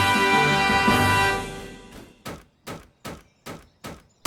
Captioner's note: hammer banging